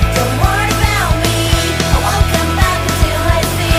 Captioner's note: none